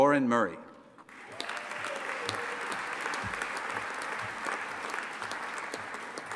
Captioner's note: audience applauding and cheering